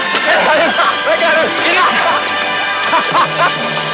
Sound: laughter

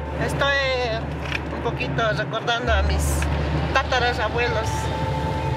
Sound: speaking in foreign language

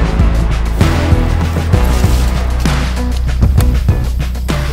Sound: leaves rustle

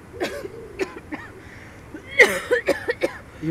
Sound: intense Coughing

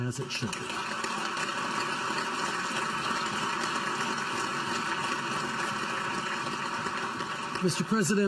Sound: applause

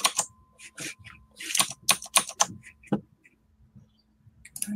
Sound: taps on keyboard

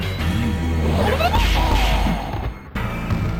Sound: shao kahn yells in pain

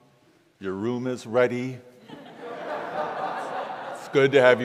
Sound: congregation laughs

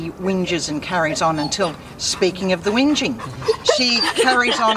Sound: dog whines

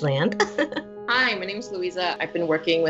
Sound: giggling

